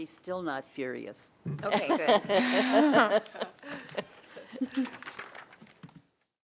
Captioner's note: laughter